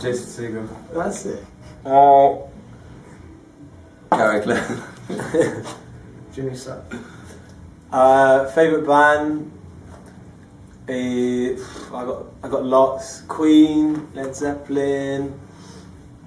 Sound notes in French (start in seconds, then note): 9.9 soupire